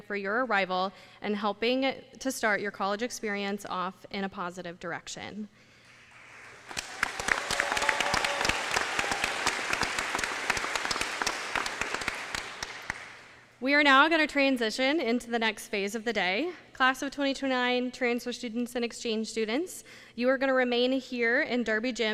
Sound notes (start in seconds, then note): 9.3 applause